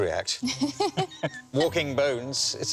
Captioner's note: laughing